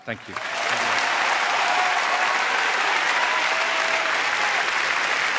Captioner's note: audience applauding and cheering